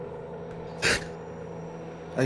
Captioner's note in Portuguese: Chorando